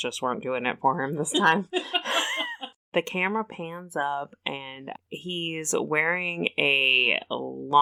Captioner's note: laughs